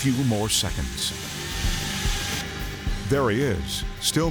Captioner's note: chainsaw buzzing